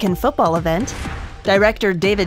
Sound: air whooshing

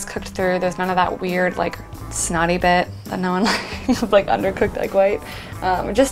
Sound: laughs

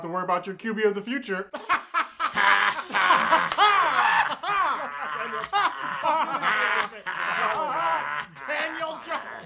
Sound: laughing

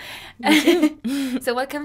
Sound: laughs

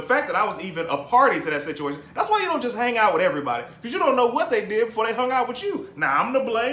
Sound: none

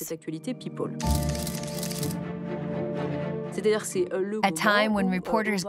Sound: cameras snap

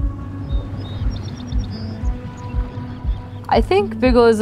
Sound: birds chirping

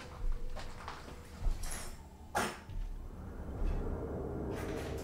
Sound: debris/footsteps from other rooms

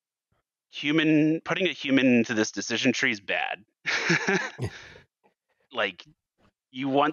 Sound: laughs

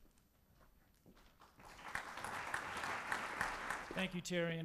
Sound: audience applause

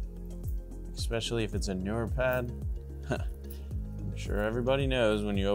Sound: laughs

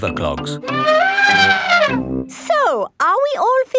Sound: trumpeting

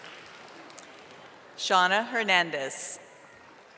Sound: audience applauding

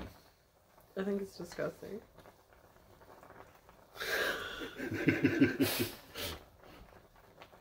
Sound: laughing

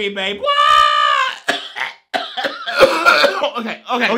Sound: coughing

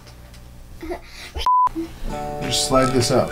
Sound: beep

